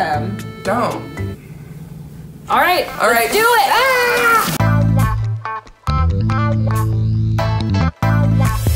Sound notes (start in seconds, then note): 2.6 yells; 4.5 upbeat music